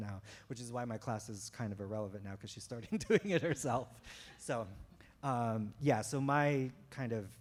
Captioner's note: chuckle